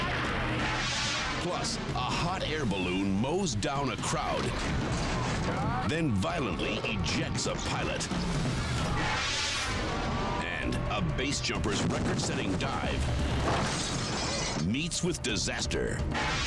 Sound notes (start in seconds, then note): 8.9 air whooshing